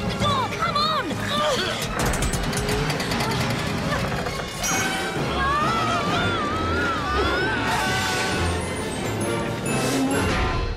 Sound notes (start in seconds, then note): 4.6 they scream